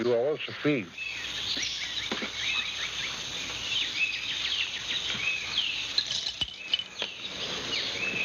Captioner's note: birds chirping